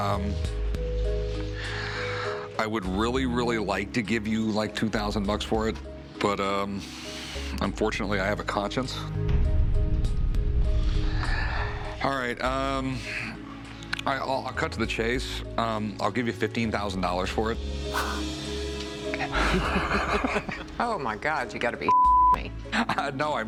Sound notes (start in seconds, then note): 19.2 laugh